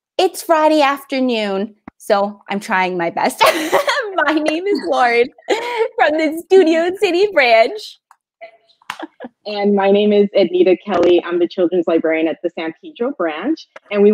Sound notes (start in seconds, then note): 3.4 laughing